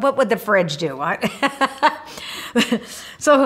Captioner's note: laughs